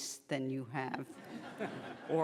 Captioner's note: laughing